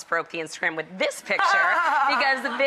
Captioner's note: laughing